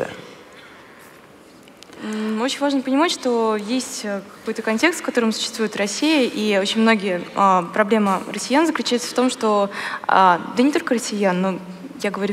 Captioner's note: foreign Language